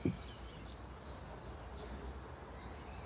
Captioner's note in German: Vogelzwitschern